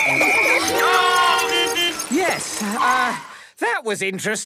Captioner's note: whistle blowing; beeping